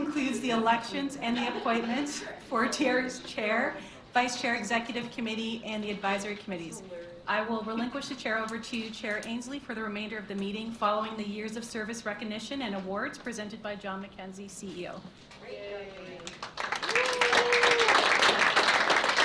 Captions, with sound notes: Now that concludes the elections and the appointments for TRCA's Chair, Vice Chair, Executive Committee, and the advisory committees. I will relinquish the Chair over to you, Chair Ainslie, for the remainder of the meeting, following the years of service recognition and awards presented by John MacKenzie, CEO. (applause)